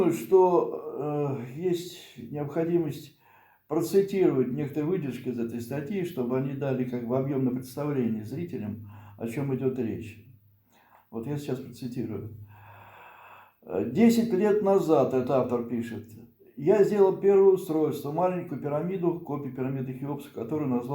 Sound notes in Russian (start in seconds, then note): 12.5 вздыхает